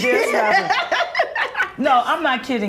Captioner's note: laughs